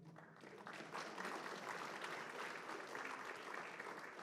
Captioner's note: applause